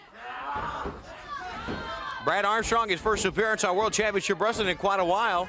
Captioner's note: crowd chatter